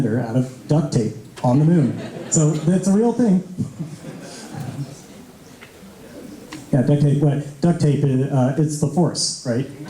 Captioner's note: laughter